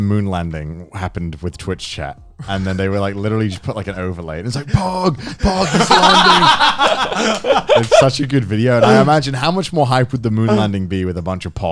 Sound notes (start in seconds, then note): 6.1 Joey and Garnt laughing